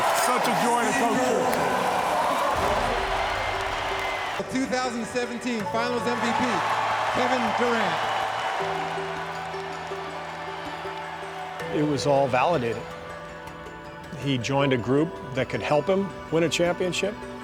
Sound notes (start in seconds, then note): 6.6 crowd cheering; 9.6 atmospheric instrumental music